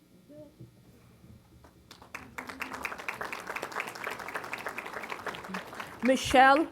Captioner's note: applause